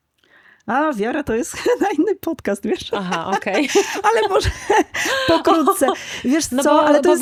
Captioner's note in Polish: śmiech